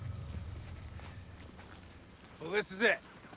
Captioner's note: footstep